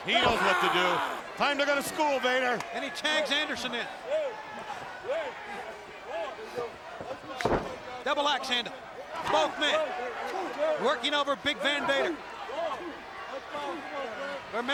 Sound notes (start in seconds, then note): 5.1 crowd clamoring; 5.1 referee faintly speaking; 7.4 blows thudding; 11.6 crowd clamoring